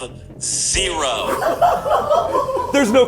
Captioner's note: crew laughing